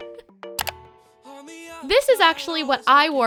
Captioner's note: clicking